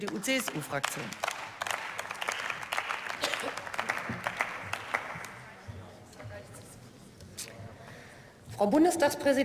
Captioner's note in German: Beifall